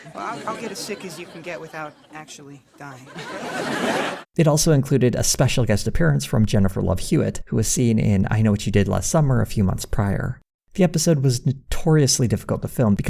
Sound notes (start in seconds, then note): 3.1 audience laughter